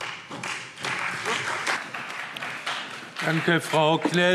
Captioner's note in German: Beifall Freie Demokraten